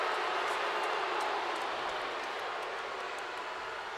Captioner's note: crowd boos